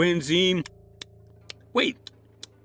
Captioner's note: chewing